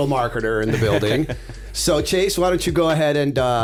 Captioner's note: chuckle